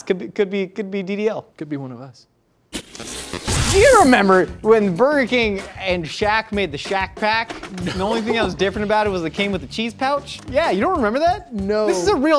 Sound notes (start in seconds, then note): 2.8 laser sound